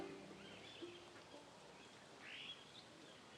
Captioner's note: birdsong